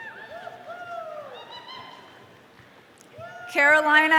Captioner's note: audience cheering